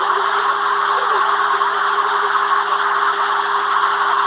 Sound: exclamation

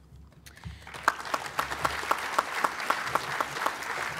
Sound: applause

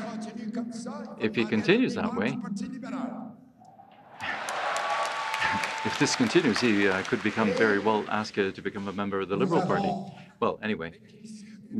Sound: cheering and APPLAUSE

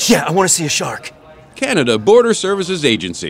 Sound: voiceover

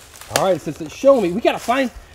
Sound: voiceover

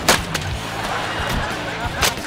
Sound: laughing

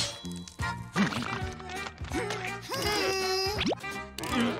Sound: grunting

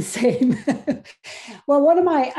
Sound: laugh

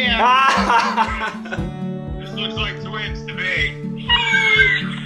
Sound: laughter

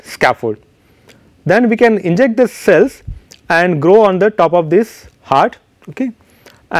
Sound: air pressure pulses

